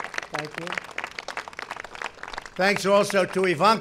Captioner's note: applause